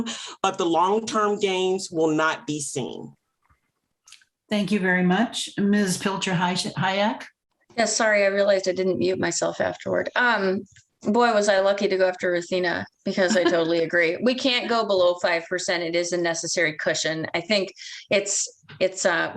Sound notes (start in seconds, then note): 13.1 laughter